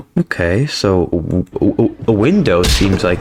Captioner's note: stutter Moment